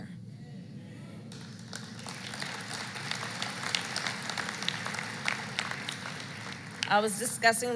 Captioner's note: applause